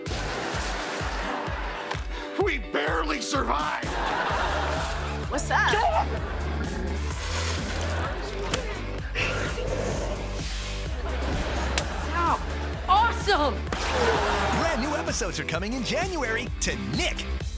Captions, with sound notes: We barely survived! [laughing] - What's that? - Ahh! [spitting] Ow! Awesome! Brand new episodes are coming in January to Nick!